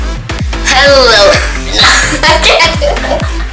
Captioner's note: laughing